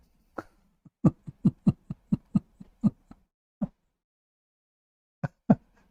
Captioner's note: Ketawa